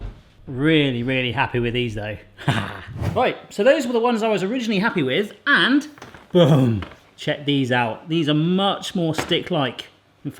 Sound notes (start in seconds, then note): 2.4 laughs